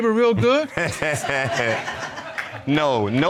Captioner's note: laughs